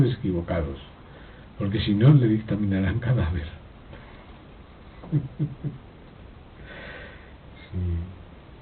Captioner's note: laughs